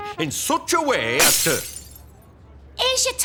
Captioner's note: breaking glass